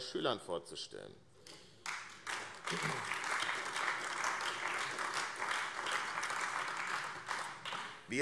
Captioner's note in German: Beifall AfD